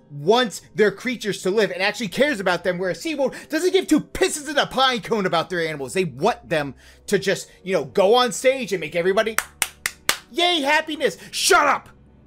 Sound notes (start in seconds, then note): 9.3 claps